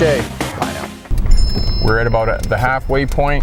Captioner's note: cell phone ringing